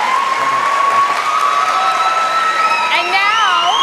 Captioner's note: cheers and applause